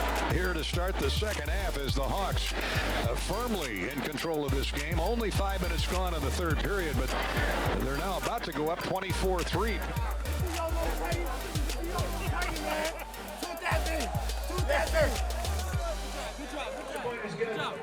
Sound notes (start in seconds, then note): 10.7 team cheering, indistinct conversations